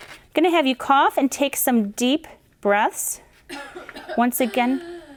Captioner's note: coughing